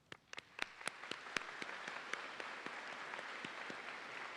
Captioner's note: audience applauding